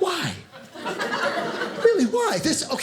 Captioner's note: audience laughing